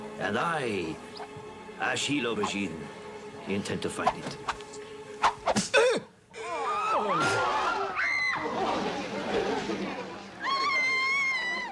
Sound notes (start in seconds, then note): 0.0 repeated swooshing; 5.2 repeated swooshing; 5.2 snap; 7.0 crash; 7.6 woman's scream, crowd frantically talking, screaming